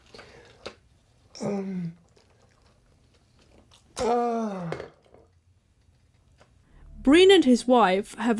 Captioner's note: passing out noises